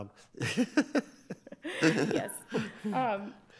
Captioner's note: laughs